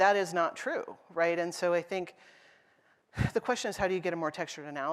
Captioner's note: sigh